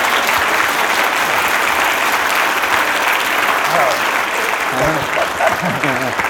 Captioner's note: applause